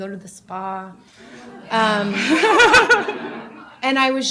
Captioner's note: laughter